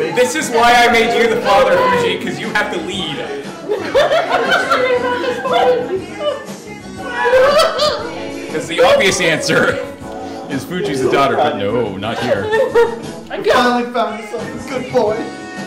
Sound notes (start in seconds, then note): 4.2 laughing; 7.0 more laughing